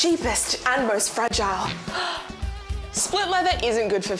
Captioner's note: gasps